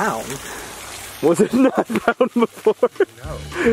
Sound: laughs

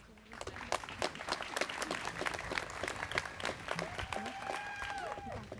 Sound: students clapping

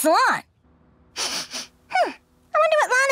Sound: sniffing

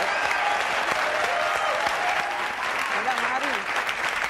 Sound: audience cheering and applauding

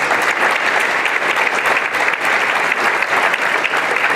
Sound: applause

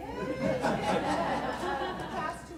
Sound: laughter

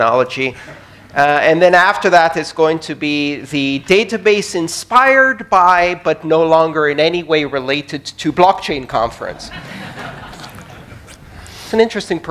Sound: laughter

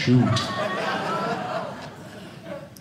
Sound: audience laughing

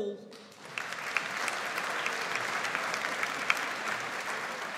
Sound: audience applauds

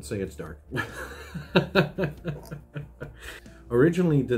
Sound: laughs

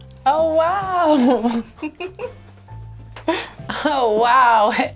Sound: laughs

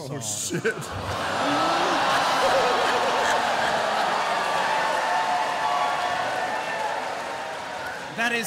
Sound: cheering

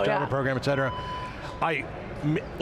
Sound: background beeping

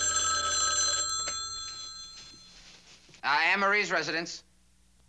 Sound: ringing

